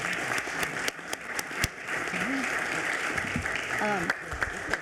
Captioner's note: everyone applauding